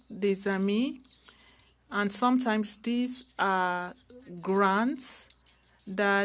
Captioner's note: speaking French